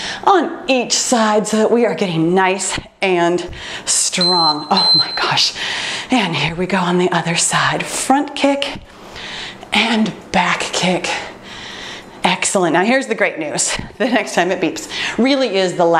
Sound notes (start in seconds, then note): 4.1 timer beeps